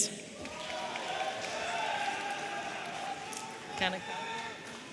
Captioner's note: audience cheering